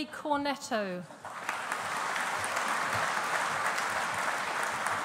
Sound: audience applauding

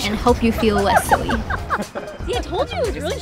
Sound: laughing

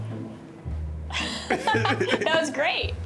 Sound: laughs

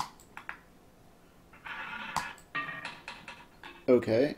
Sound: ball rolling

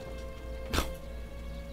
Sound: scoffs

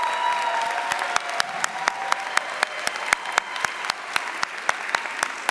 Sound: audience cheering and applauding

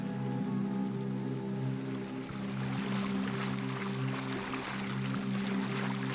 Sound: chords fade out leaving the sound of a yacht moving through water

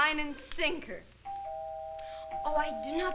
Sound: doorbell rings

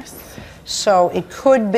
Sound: none

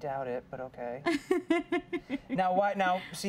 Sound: giggling

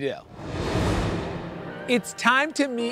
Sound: air whooshing

